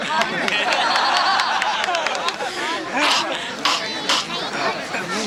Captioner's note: laughing